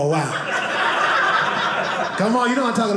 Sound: audience laughing

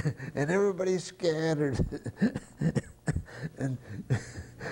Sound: laughter

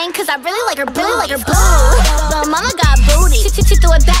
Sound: ooh, ooh, ooh

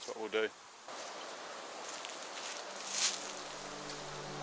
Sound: water rushing; gentle instrumental music

